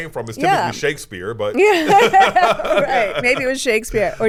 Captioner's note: everyone laughs